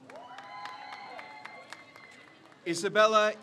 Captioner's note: crowd cheers